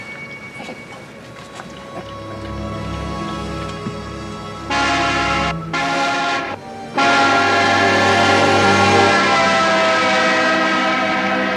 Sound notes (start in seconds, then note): 1.9 suspenseful music; 3.7 horns honking